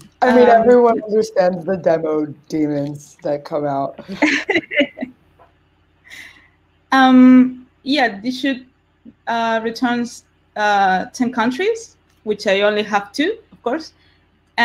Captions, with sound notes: - I mean, everyone understands the demo demons that come out. (laugh) - Yeah, this should returns 10 countries, which I only have two, of course,